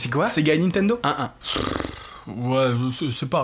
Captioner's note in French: Souffle